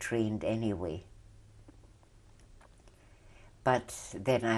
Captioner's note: pauses for 3 seconds